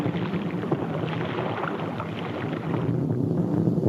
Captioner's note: water splashes